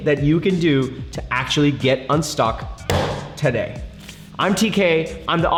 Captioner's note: hand smacking